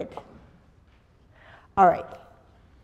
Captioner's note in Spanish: pausa